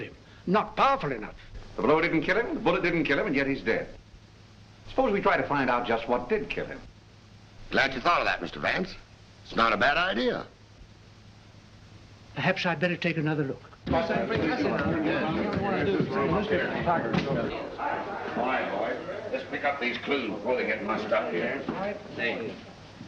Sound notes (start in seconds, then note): 13.7 indistinct chatter